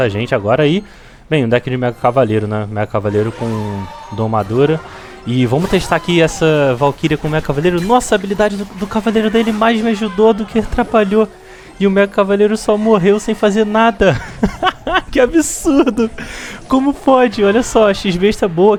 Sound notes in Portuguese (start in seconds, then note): 14.0 risadas